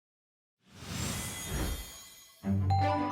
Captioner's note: air whooshing; bright music